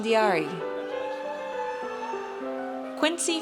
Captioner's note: audience cheers